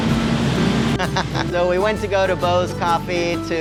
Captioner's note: laughing